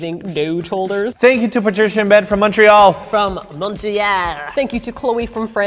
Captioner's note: french accent